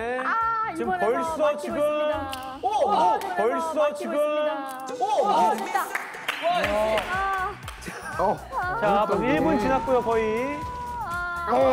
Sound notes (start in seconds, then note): 5.4 clapping to praise him